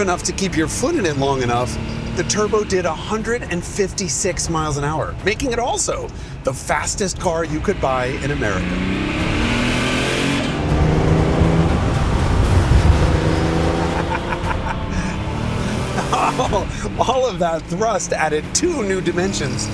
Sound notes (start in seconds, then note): 9.5 engine revving; 13.7 laughs